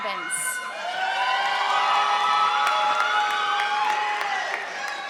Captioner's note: audience applauding